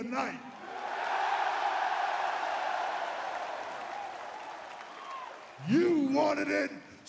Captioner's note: crowd cheering